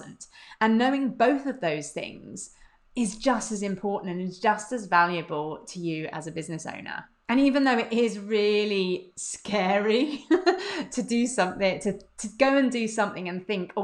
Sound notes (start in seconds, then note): 10.0 laughs